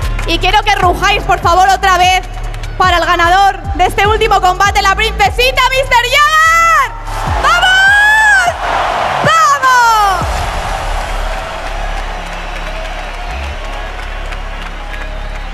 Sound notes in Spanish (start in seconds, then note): 10.7 Aplausos y gritos